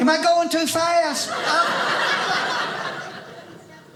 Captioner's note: audience laughing